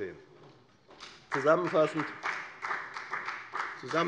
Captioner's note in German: Beifall bei der FDP